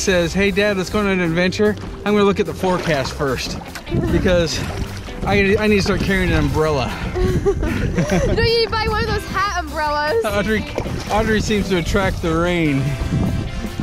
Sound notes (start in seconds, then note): 7.0 laugh